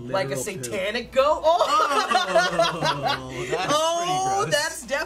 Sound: laughs

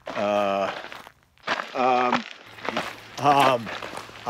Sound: Eugene mumbling

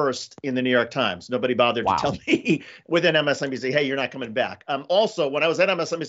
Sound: laugh

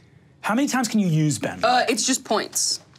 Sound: none

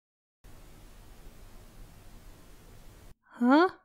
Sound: confused silence

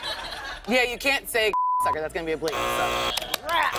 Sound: buzzer

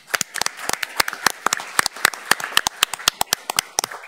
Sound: all applauding

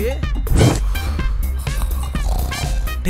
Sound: snoring

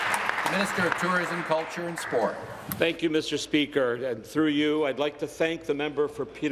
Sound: applause

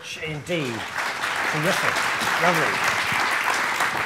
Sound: applause

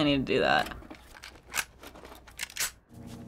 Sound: scrolling; tinkering with gun

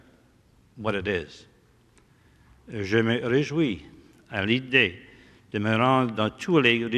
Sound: speaking french

